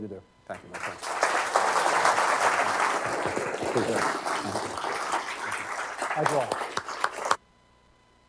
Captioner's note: applause